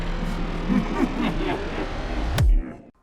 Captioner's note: evil Laughing